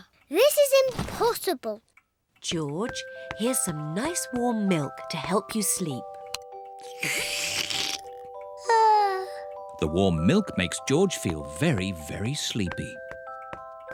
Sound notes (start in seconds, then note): 8.6 yawns